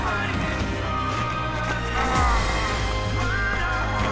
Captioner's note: grunting